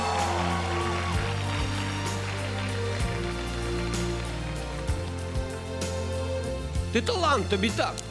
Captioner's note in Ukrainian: оплески